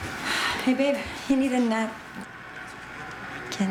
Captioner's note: sigh